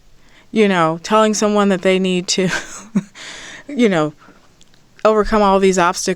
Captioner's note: light laughter